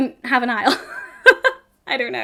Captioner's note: woman laughs